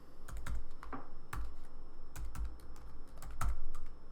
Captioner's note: keyboard typing